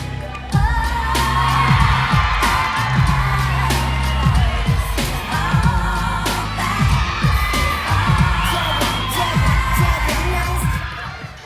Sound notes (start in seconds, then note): 1.6 audience cheering